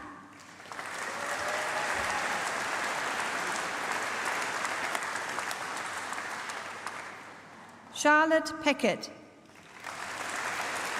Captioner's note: applause; applause